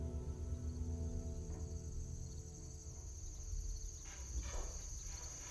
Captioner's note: crickets chirping